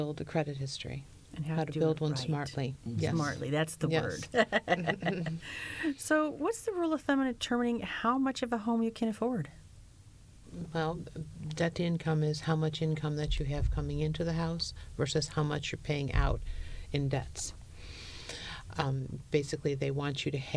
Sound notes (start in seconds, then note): 4.2 laughter